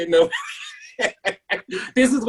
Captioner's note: laughs